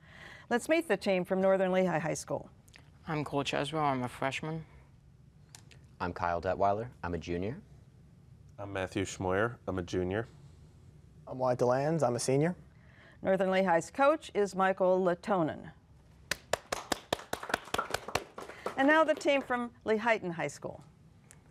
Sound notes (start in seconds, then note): 16.3 applause